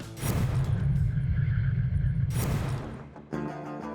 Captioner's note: electronic whirring